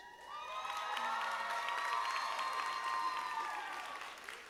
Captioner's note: audience applauding